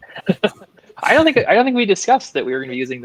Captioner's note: laughing